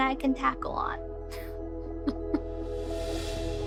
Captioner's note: chuckling